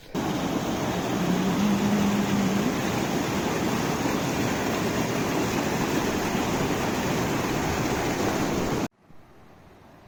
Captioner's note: water gushing